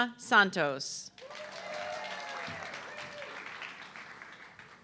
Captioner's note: audience clapping